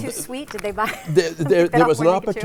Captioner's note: laughing